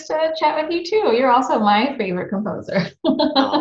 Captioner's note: laughs